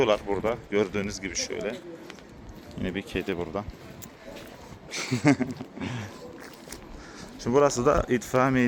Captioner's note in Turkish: kahkaha